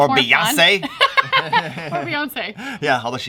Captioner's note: laughter